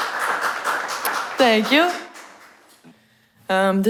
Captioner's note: applause